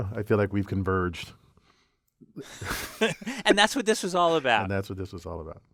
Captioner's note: laugh